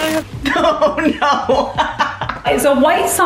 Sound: laughs

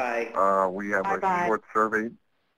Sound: voiceover

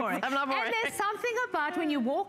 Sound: laughter

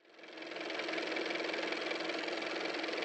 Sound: car motor

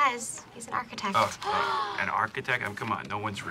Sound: both gasp

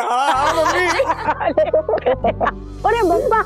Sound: laughs

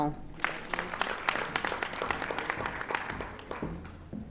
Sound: audience applauding

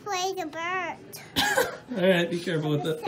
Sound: laughs

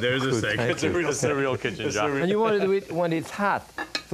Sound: none

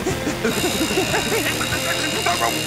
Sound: grinding

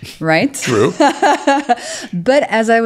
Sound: laughs

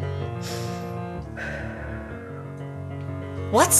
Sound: inhales and exhales

